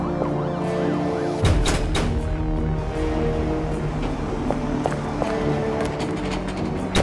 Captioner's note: dramatic music; guns firing